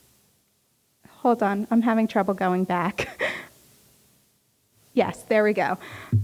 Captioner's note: chuckles